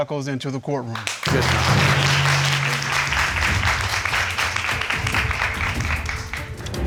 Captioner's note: crowd clapping